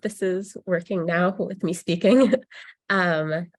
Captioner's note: laughs